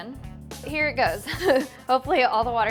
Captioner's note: laughs